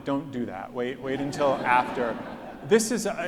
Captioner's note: audience laughs